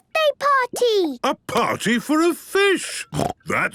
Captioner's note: snorting